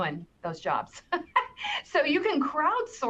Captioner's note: laughs